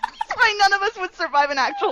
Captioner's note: laughter